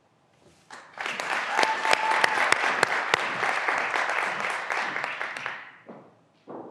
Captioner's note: graduands cheering and applauding